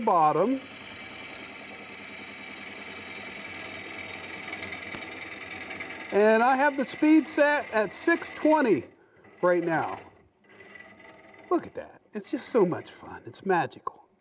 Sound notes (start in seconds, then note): 0.7 tools buzzing